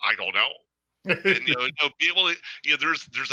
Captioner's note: chuckles